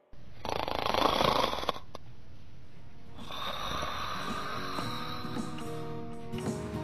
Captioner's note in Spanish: sonido de roquido